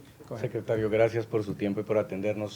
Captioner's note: speaking spanish